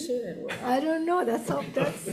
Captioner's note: speaking off-mic